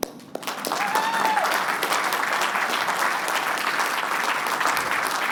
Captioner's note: applause